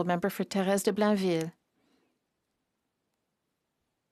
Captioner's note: speaking French